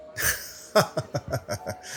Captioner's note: laughs